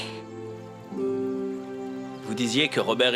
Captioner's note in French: ruissellement d'eau